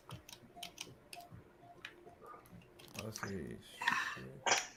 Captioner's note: clicking